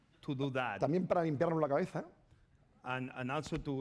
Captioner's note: speaking spanish